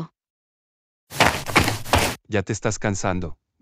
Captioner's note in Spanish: FX - Footsteps - On Multiple Dirt - Run